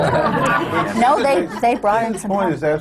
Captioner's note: laughter